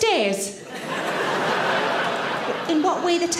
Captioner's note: audience laughter